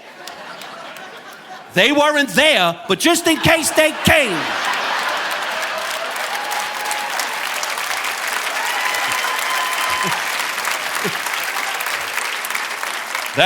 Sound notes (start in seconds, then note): 0.0 audience laughing; 4.9 audience laughing and applauding; 10.1 chuckles